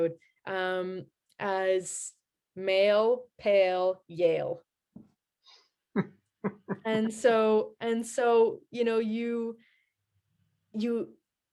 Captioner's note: >> : laughter